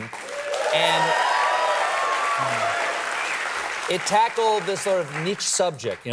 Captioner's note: applause